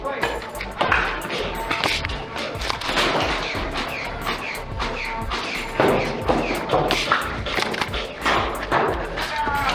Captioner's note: motors revving and blasters/darts thunking